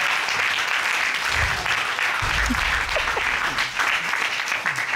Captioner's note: applause